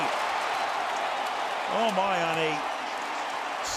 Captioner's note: cheering